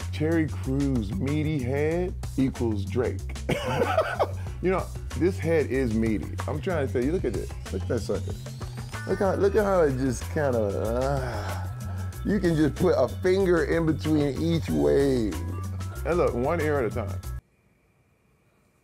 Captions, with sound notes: Terry Crews meaty head equals Drake. (laughs) You know what, this head is meaty. I'm trying to say, you look at it. Look at that sucker. Look how it, look at how it just kinda (groans). You can just put a finger in between each wave. Now look, one ear at a time.